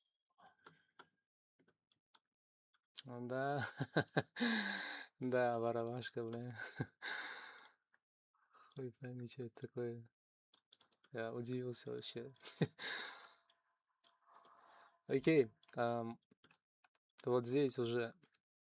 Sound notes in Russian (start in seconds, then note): 3.5 смех; 4.4 тяжело вздыхает